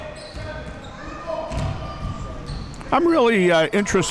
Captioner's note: spectators shouting